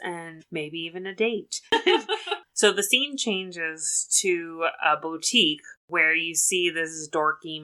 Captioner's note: laughs